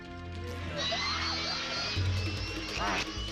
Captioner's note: grunting